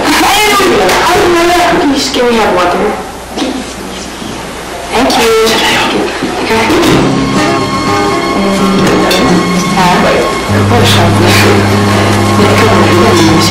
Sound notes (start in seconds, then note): 8.3 indistinct chatter